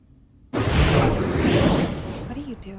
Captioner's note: air whooshing